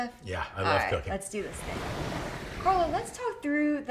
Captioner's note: ocean lapping